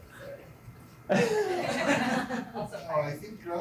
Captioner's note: laughter